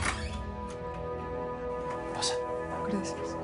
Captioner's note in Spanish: Sonido al abrir la puerta